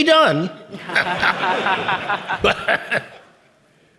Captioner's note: audience laughing